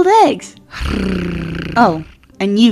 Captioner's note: Percy snorts